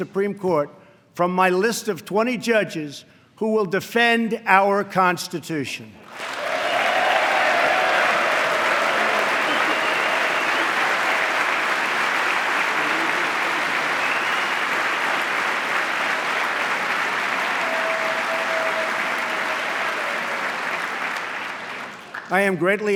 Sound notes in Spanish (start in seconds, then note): 6.4 aplauso